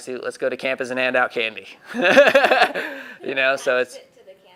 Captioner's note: laughing